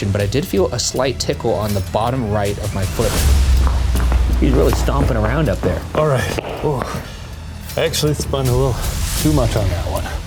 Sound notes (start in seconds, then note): 2.9 loud footsteps stomping; 3.3 dramatic music